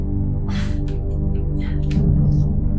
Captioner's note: grunts of effort